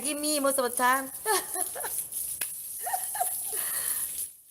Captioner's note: laugh